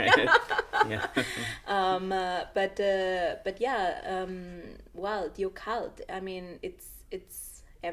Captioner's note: chuckles